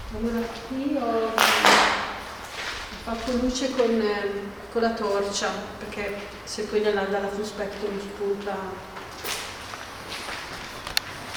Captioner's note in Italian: Applauso